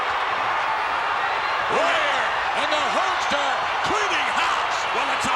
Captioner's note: applause